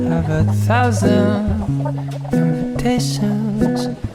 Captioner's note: haha